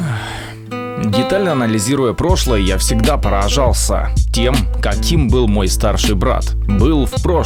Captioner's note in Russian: Вздох